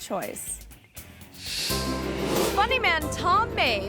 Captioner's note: image whooshes